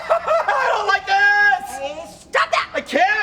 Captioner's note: screaming